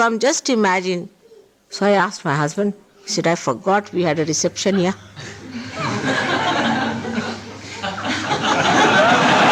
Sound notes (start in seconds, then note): 5.4 laughter